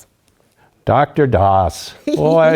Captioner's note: laugh